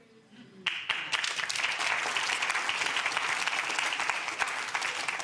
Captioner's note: audience clapping